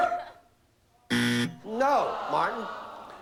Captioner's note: buzzer